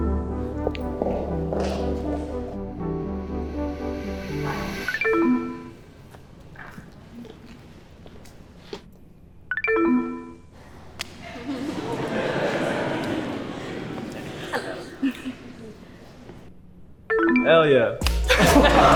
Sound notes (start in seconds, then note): 0.0 gentle music; 0.1 electronics beep; 5.3 gentle music; 9.8 electronics beep; 11.1 group laughs; 17.1 electronics beep